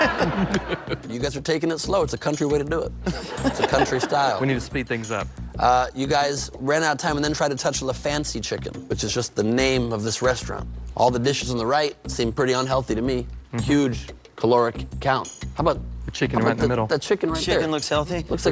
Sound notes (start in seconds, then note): 0.0 laughs; 3.0 both laugh